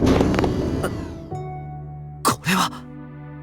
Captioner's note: gasp